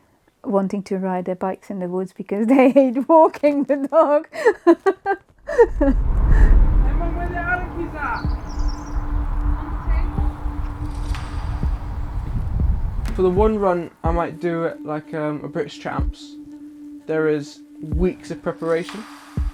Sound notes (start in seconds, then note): 4.3 laughter; 6.0 sounds of a generator and cars passing